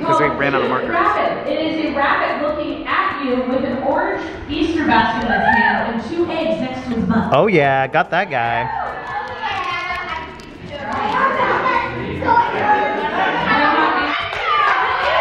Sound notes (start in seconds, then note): 9.2 people chattering